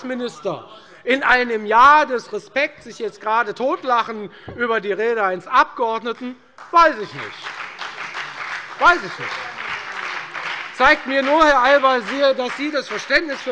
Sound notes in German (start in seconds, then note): 8.3 Beifall bei der FDP und bei Abgeordneten der SPD